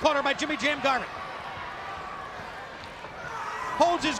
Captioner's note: crowd cheering